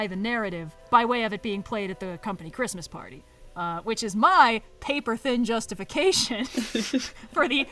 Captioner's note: laughs